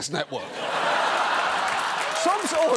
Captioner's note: studio audience laughs, applauds